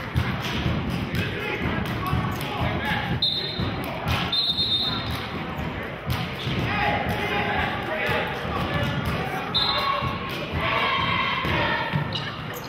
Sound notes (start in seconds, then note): 4.2 whistling; 6.1 yelling; 9.5 whistling